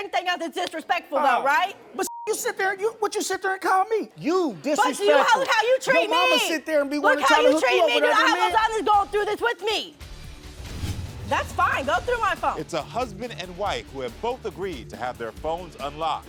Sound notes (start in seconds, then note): 2.0 beep; 10.0 dramatic music